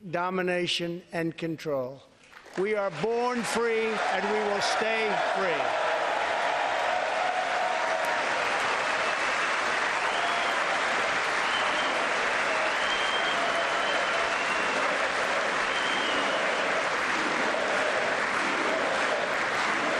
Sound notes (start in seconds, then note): 14.0 applause